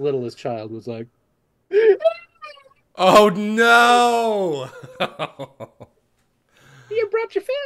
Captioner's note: crying